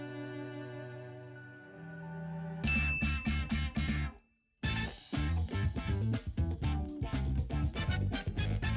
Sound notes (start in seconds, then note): 2.6 upbeat music; 2.6 bell dings